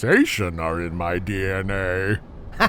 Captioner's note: Finn laughing